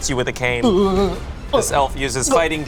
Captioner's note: choking